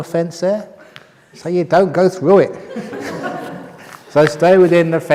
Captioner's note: laughter